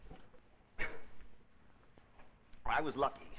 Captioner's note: Dover coughs